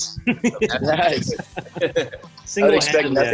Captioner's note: laughing